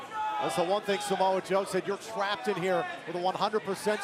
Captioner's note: crowd chatter